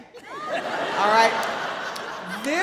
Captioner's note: audience laughing